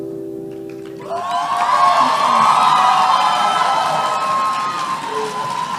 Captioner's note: cheering